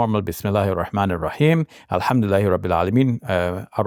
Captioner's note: speaking Arabic